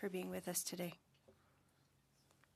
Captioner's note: speaking French